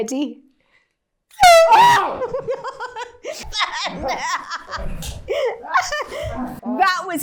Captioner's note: laughing